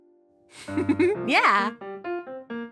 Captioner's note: giggles; charming piano music